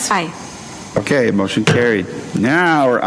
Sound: gavel raps desk

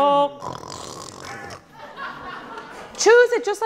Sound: singing in foreign language; snoring

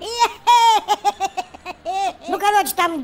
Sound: Masyanya loughing

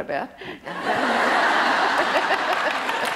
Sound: loud audience laughter and applause

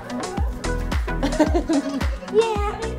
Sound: laughter

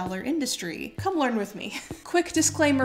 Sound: chuckles

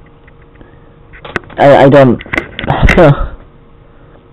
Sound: sobs

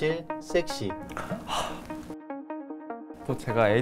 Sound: sigh

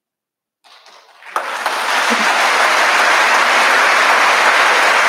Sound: audience applauding

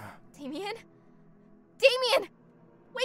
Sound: groans

